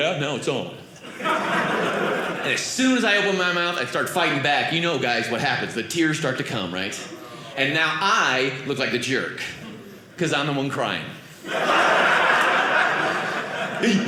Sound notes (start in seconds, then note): 1.0 audience laughing; 11.3 audience laughing